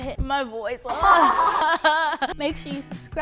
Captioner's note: laughter